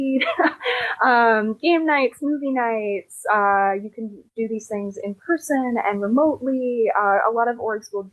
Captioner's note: laughter